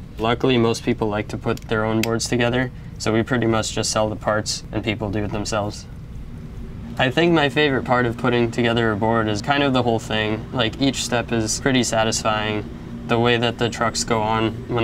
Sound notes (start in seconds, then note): none